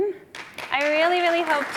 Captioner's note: audience applauding